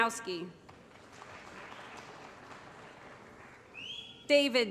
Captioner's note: applause